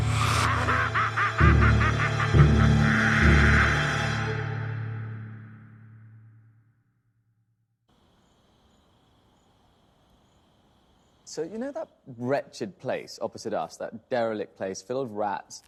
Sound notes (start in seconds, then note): 0.2 Knock laughs maniacally; 7.9 crickets chirping